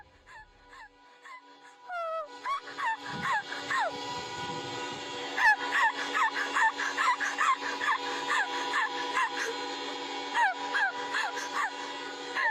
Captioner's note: crying sound